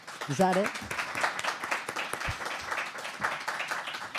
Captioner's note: applause